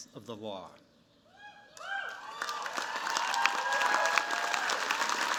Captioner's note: cheers, applause